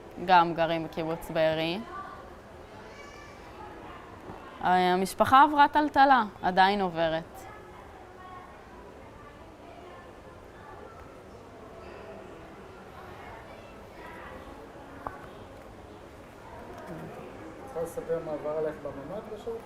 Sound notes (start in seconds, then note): 7.4 pauses 10 seconds